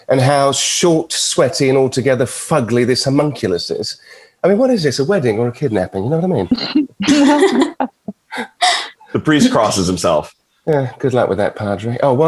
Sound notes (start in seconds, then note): 7.0 everyone chuckling